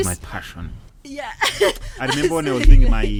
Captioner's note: laughing